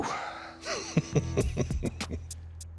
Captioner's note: chuckling